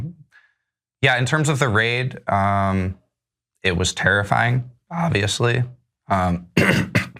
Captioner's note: cough